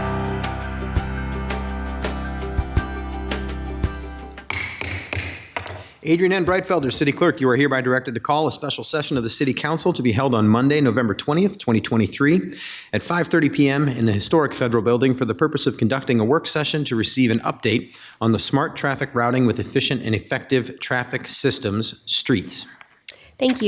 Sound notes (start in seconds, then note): 0.0 lighthearted music; 4.4 gavel banging